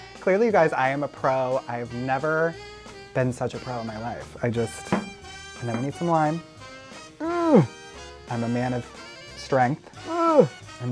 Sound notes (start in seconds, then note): 7.2 grunts; 10.1 grunts